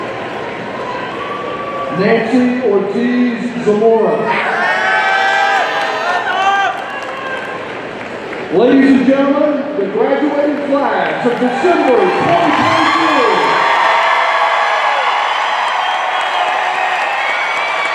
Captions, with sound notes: Nancy Ortiz Zamora. (audience cheering) Ladies gentlemen, the graduated class of December 2022. (audience cheering and applauding)